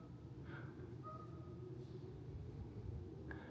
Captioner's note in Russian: свистит